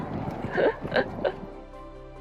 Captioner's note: laughs